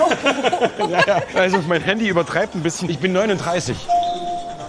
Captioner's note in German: lacht